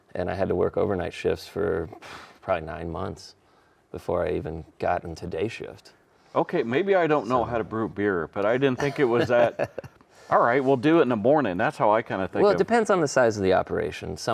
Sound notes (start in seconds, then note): 8.7 chuckling